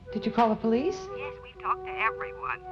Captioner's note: on phone